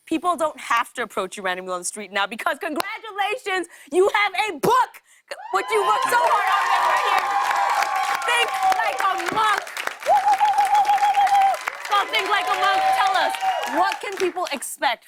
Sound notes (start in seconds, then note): 5.0 cheers and applause; 9.6 whooping